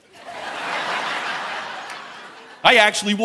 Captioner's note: audience laughing